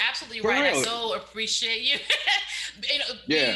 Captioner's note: laughs